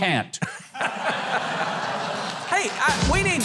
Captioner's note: audience laughter